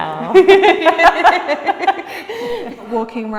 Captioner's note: laughing